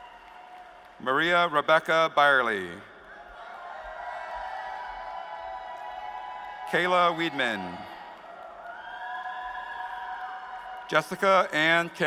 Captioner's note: applause